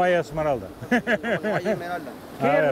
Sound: speaking Spanish; speaks Spanish; laughs; both speaking Spanish

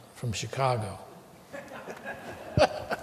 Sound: laughter

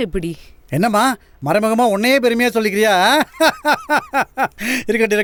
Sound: laughs

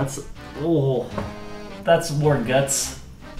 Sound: sound of disgust

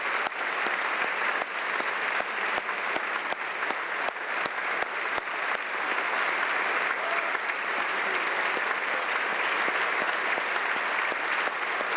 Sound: applause

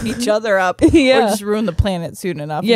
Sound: chuckles

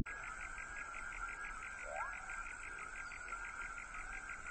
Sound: marsh insects

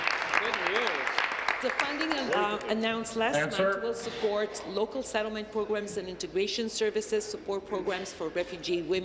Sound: applause

